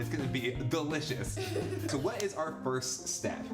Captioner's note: laughing